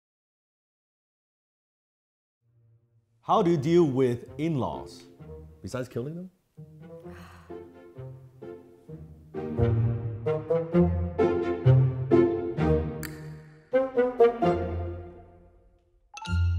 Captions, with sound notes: - How do you deal with in-laws? Besides killing them? (heavy sigh) (choppy music)